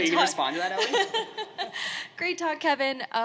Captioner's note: laughing